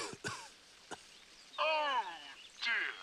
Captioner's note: coughs